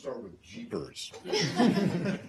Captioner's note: laughter